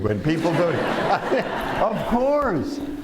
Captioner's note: laughter